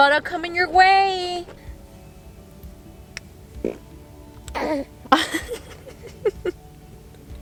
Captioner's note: baby farts; kiss noises; laughter